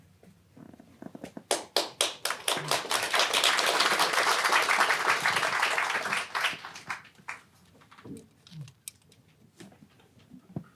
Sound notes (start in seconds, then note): 1.5 audience applauding